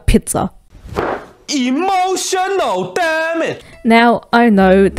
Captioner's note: thump